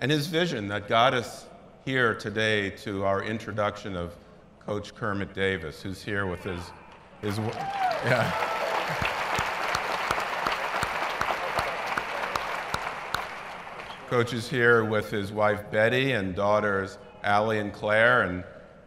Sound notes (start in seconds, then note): 7.2 applause